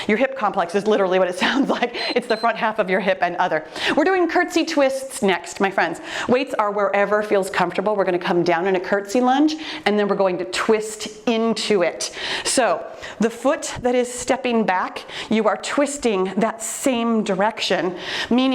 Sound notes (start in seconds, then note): 1.8 chuckling; 1.9 timer beeps